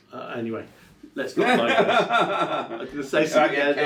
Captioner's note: laughs